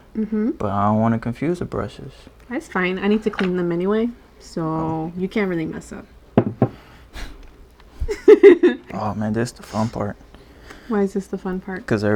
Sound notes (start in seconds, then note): 7.3 sighs; 8.1 laughs